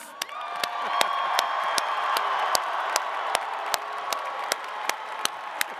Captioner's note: attendees cheering and clapping